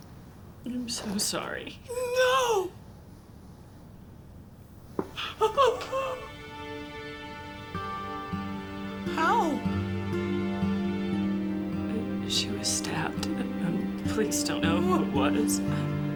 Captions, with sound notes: - I'm so sorry. - No! (dramatic orchestral music) (sobbing) How? - She was stabbed. The police don't know who it was.